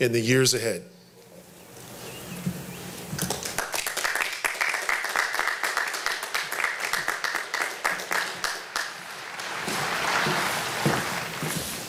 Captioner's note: applause